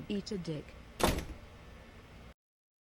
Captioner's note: door slam